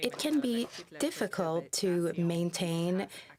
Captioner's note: speaking French